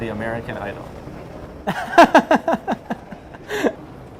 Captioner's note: laughing